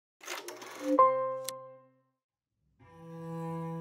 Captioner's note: title shutters and dings